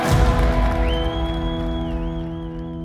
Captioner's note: crowd cheering and whistling